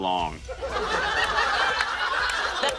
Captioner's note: laughter